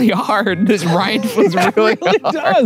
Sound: laughing

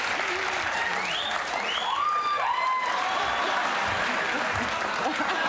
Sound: crowd whistling; crowd cheering

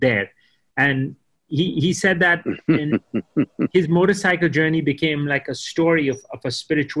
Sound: Sadhguru laughs

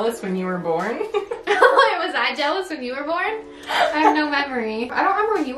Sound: both laugh

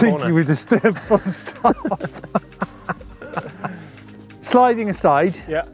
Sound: laughing

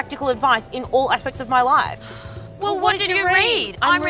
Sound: sighs

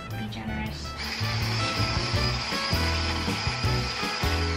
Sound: whirring

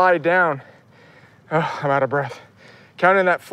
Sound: sighs

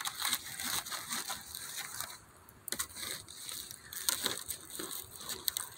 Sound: stick rustling around in the hot burning embers

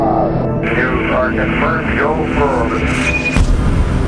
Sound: radio voice 2; radio voice 3

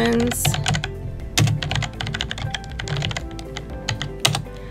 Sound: typing

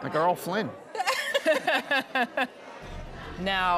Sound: both laughing

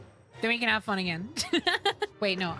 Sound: laughter

